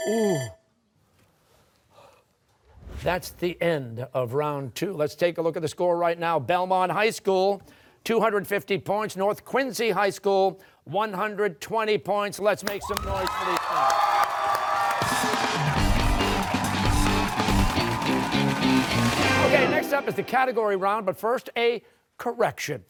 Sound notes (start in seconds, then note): 0.0 bell dings; 14.9 cheers and applause